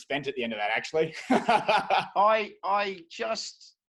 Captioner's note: laughing